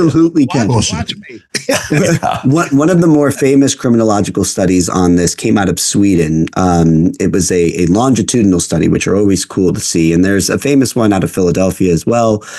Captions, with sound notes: You absolutely can. That's impossible to me. (Both Laughing) One of the more famous criminological Rafael A. Mangual studies on this came out of Sweden. It was a longitudinal study, Rafael A. Mangual which are always cool to see. And there's a famous one out of Rafael A. Mangual Philadelphia as well.